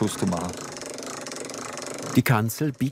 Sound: rattling

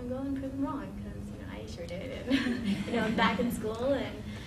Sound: laughing

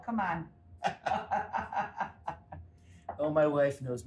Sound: Rachael and John laugh

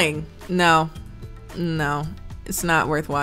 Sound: none

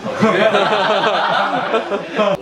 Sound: laugh

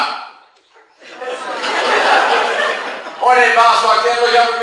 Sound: class laughs

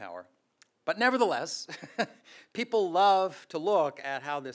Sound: laughs

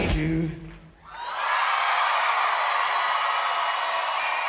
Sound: crowd cheering

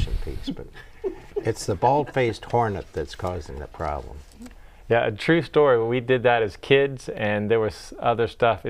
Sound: laughing

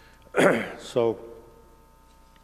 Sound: clears throat

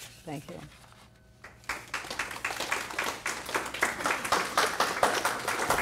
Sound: audience applauds

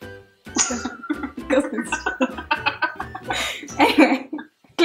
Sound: laughing

